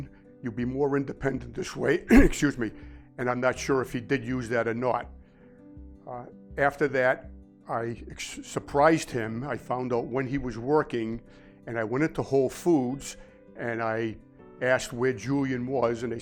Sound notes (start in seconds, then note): 2.0 coughs